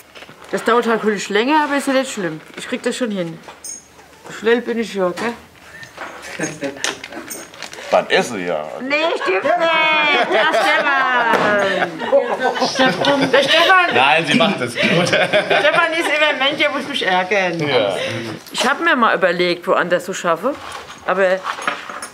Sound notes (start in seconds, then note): 11.3 everyone laughs